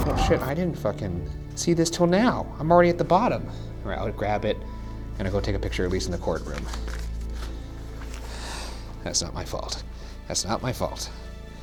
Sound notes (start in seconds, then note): 8.4 exhales sharply